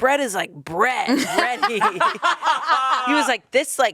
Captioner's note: everyone laughs